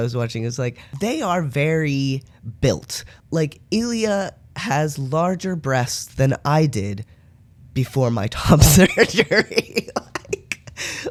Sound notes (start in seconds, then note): 8.6 laughter